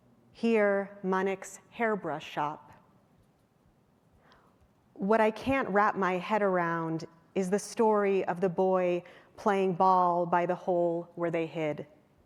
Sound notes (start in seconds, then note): none